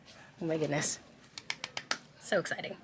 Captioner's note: palms clapping